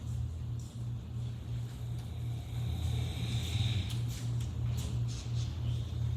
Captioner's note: snoring